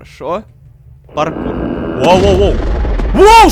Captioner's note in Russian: Страшные звуки